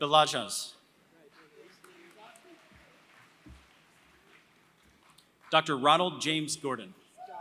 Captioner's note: applause; applause